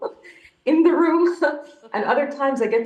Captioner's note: chuckles; laughs